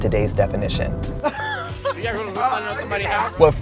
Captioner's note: laughing